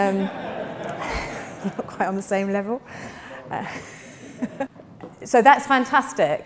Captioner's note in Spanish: risas del público